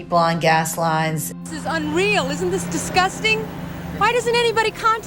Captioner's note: soundbite of archived recording